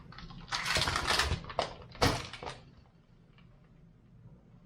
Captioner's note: ice rattles